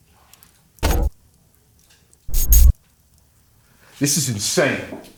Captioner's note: electronics glitch